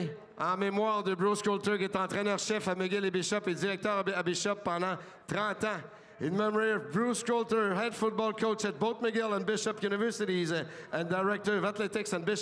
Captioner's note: speaking French